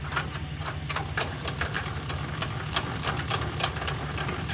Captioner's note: machinery clanks